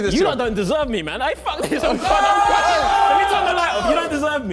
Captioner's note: contestants screaming